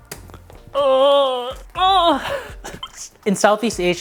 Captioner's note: groaning